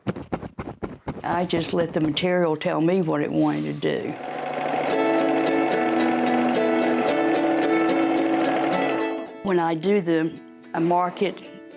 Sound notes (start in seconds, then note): 0.0 rhythmic thumping; 3.2 sewing machine whirs; 3.9 cheerful guitar music